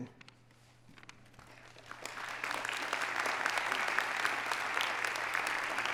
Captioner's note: audience applauding